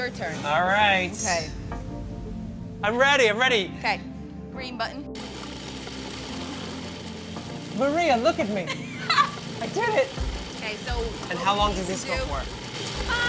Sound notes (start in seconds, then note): 5.2 processor whirs; 8.6 laughs